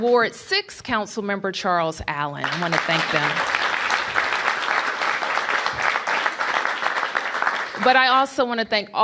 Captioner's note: applause